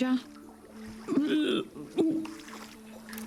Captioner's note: reaching and grunting